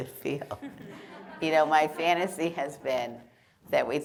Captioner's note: laughter